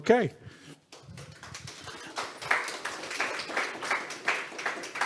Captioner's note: audience applauds